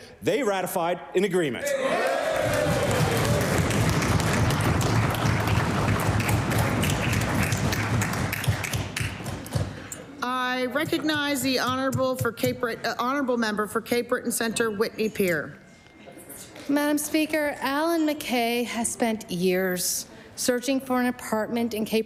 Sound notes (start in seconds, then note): 5.3 cheering/Applause